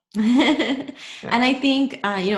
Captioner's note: laughs